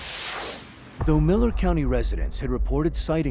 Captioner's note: none